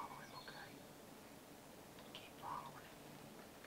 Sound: whispers

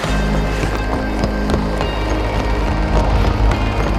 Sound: footsteps

